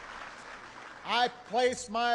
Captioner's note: applause